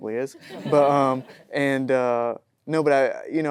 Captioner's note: audience laughing